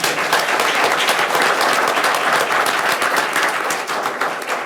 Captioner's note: people clapping